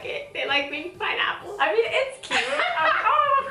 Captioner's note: laughs